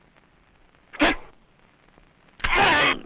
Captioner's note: non-english speech